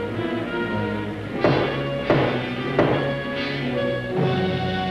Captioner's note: banging on door